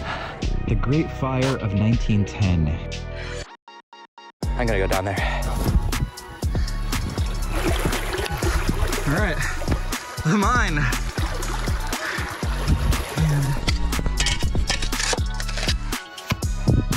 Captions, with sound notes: The great fire of 1910. I'm gonna go down there. [Running water] All right, come on. [Running water] [Scraping sound]